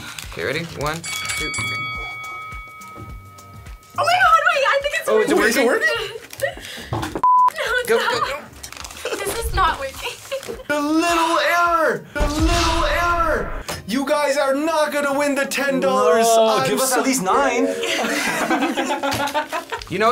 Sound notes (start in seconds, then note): 7.2 beep; 17.5 people laughing